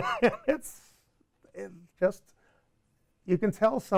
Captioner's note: laughs